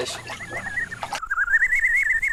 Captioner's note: whistling sound